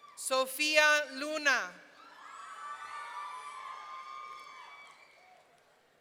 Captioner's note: audience cheering